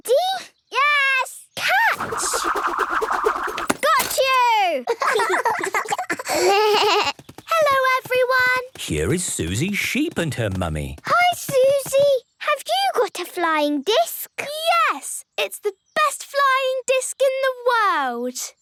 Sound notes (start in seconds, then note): 4.8 laughter; 6.0 bleating